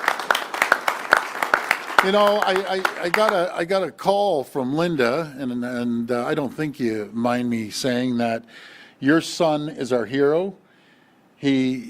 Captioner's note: applause